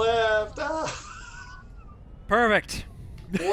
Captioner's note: laughter